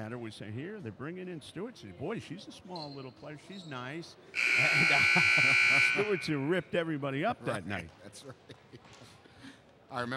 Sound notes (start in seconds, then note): 4.3 buzzer dings; 4.6 laughs; 8.6 laughs